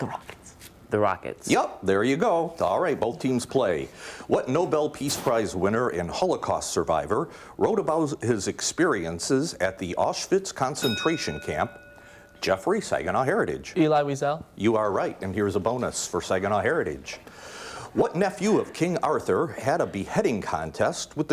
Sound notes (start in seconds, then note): 10.8 ding